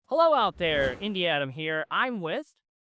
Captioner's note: transition whooshes